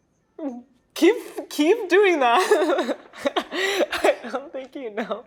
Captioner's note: laughing